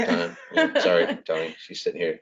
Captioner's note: laughs